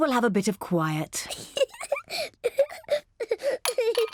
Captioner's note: giggles